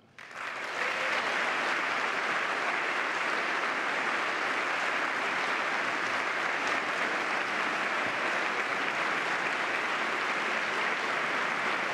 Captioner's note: applause